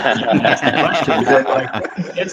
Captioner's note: laughter